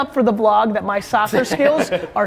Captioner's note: laughs